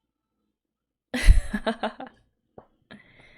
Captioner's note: laughs